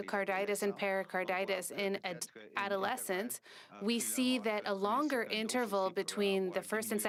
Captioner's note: speaking French